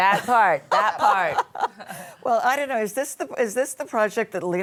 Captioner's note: laughs